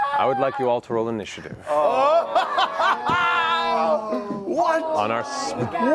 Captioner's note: laughs